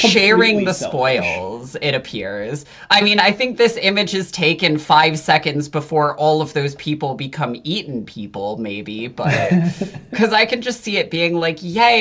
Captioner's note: laughs